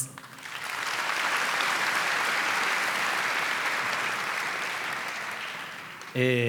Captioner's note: applause